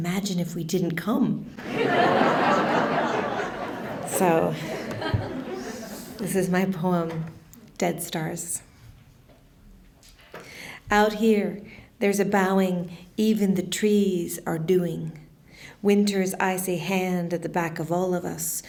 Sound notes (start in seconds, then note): 1.6 laughter